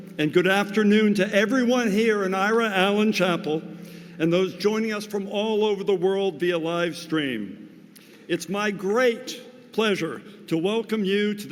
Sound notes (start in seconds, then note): none